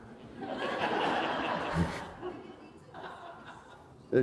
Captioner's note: laughter